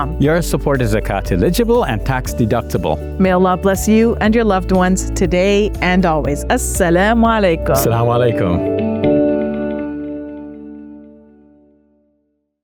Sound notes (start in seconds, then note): 7.3 foreign language; 9.9 gentle music